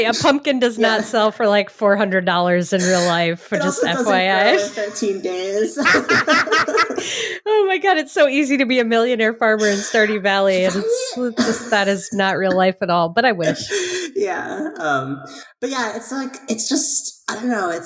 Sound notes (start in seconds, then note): 6.1 laughing